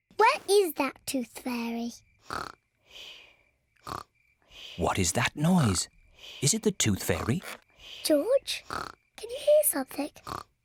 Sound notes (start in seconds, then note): 2.3 snoring